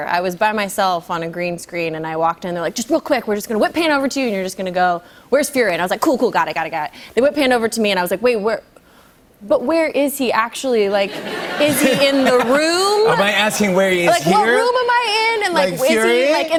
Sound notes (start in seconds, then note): 11.0 laughter